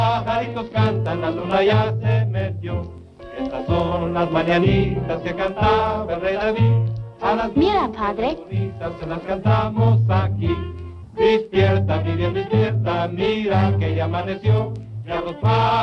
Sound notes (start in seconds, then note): 7.7 speaking spanish; 9.1 playing mariachi music